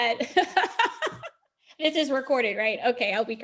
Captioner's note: laughs